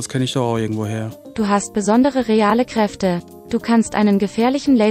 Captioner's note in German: Eine weibliche Computerstimme liest auf Deutsch vor